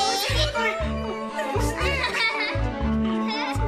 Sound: Ethel laughs

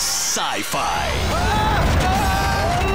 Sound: screaming

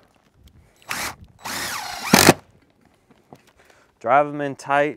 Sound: power tool whirring

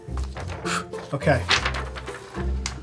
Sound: blows

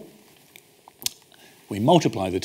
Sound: smacks lips

